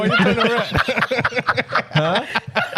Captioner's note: laughing